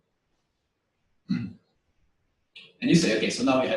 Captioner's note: pause